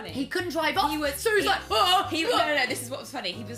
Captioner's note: angry voices